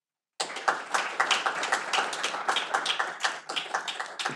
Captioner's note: audience applauding